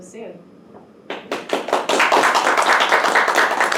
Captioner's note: crowd applause